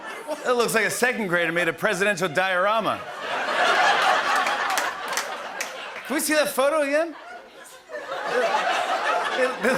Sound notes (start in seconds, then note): 2.7 laughter and applause; 7.3 laughter